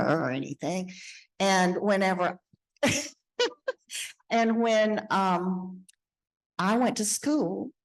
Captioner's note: laughing